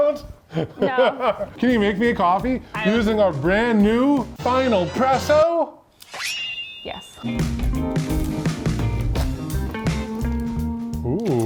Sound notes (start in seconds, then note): 2.2 laughs; 7.2 light music